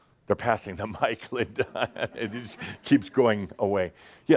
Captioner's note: Adamus chuckles